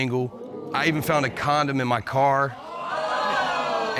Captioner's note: audience gasping; audience exclaiming